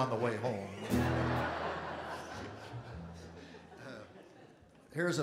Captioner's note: audience and Performers Laughing